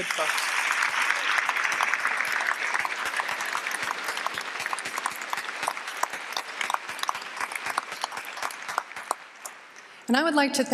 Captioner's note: applause